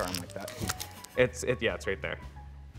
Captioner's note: crunching sound